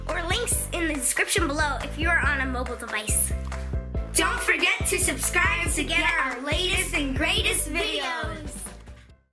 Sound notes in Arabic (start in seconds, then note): 4.2 بصوت واحد